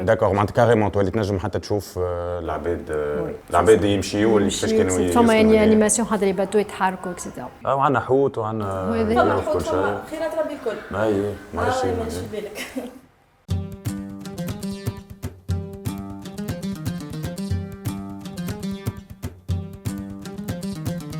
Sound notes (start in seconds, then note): 12.7 laughs